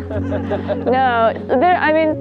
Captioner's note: all laugh